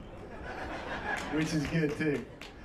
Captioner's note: laughs